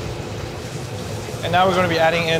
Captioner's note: broth burbling